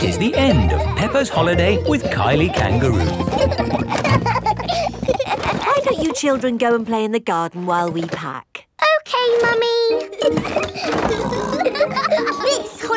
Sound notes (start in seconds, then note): 3.9 children laughing; 10.1 laughing and snorting